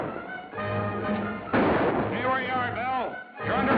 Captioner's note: gunshot